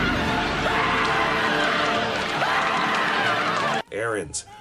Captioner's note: Kelso screaming in terror